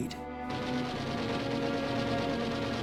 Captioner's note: gunfire